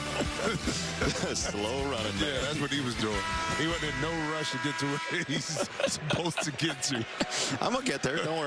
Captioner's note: laughter